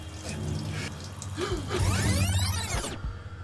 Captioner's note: water trickling